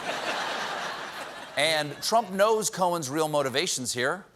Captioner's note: laughter